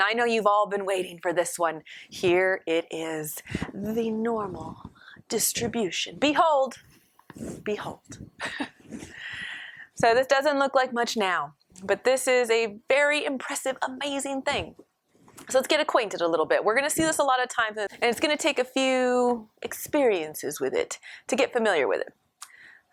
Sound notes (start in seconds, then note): 8.4 laughter